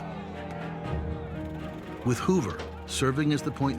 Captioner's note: people shouting